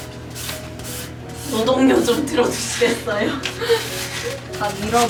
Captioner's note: haha